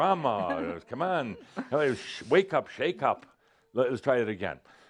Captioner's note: she’s giggling